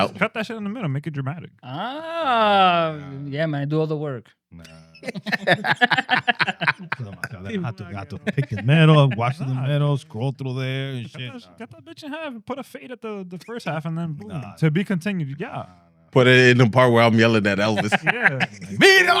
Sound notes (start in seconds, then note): 6.9 laughing; 6.9 speaking In Foreign Language